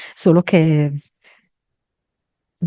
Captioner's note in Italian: none